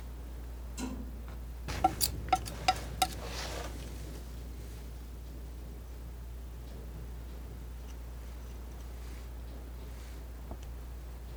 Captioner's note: tapping